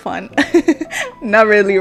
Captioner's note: laughing